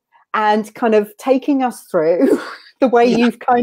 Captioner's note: laughs